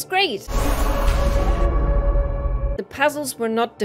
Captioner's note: sounds of impact